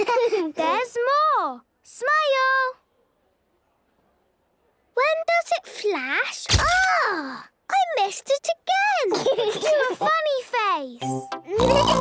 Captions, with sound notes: - (giggling) There's more! Smile! - (silence) - When does it flash? - (camera clicks) - Agh!! I missed it again! - (giggling) - Do a funny face!